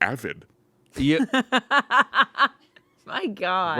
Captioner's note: laughs